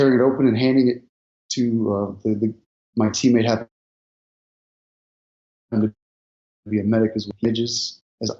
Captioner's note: audio distorts